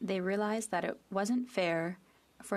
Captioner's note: speaking French